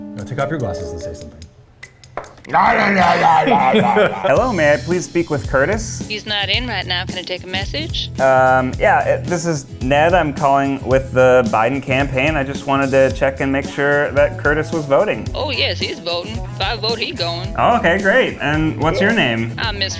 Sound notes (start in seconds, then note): 2.4 growling